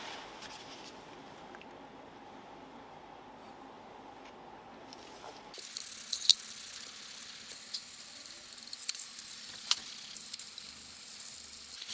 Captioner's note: working sound